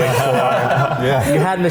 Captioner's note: group laughing